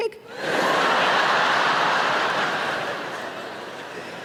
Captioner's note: laughing